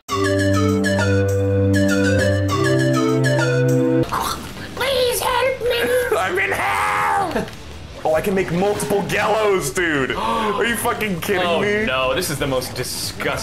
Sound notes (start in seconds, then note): 4.0 choking sound; 10.1 gasp